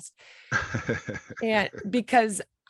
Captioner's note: chuckling